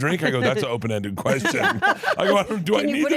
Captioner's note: laughs